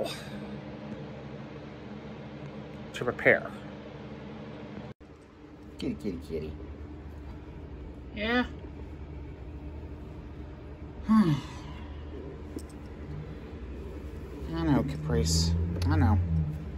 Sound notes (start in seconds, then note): 11.0 sighs